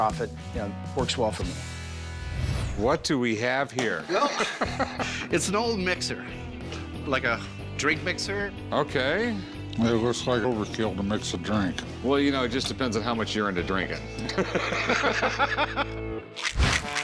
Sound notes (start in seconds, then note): 4.0 laughs; 14.2 laughter